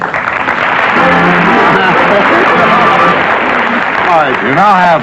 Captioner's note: applause